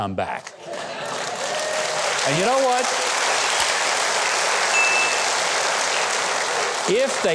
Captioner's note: audience applauding